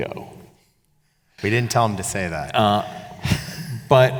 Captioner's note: chuckles